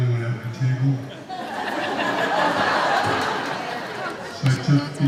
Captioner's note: laughing